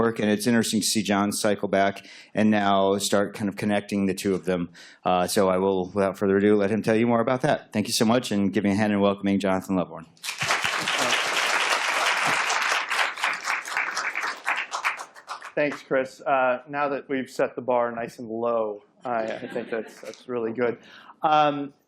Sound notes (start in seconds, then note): 10.2 applause